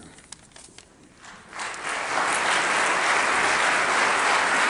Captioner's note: audience applauding